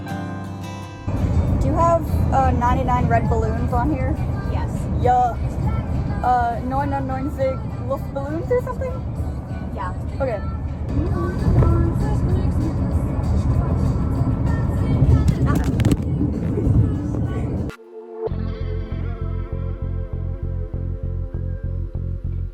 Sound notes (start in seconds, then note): 10.9 singing; 15.2 clatter, then muffled sounds/laughing